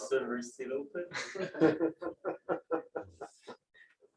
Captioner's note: laughter